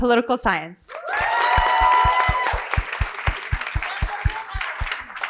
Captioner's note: cheering and applause